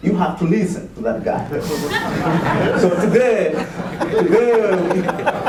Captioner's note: laughter